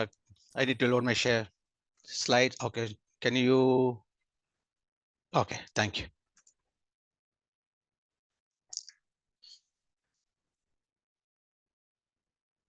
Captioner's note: pause